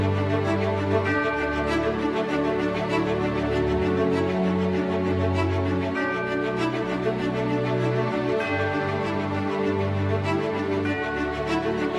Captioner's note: bells tolling